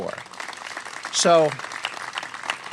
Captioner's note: applause